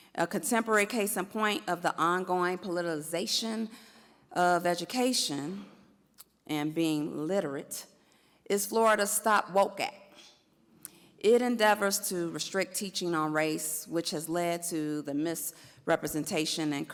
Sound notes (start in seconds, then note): none